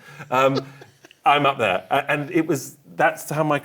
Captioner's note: laughs